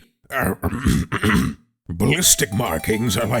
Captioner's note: clearing throat